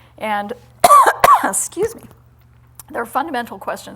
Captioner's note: coughs